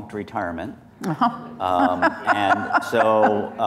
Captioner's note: laughs